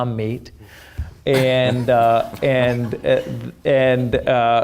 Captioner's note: laughing